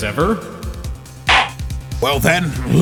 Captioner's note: gavel slams!